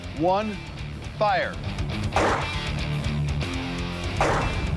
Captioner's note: gun firing